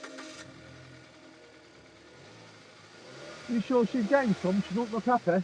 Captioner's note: car starting